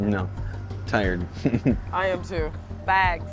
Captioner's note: laughing